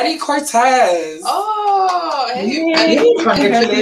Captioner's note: group claps; claps